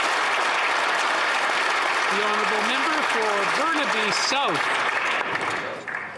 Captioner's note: applause